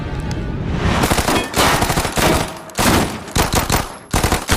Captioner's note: gun firing